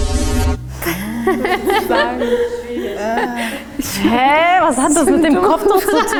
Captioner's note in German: lachen